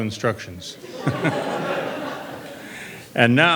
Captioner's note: laughter